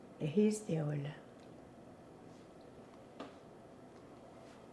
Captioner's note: pauses 6 seconds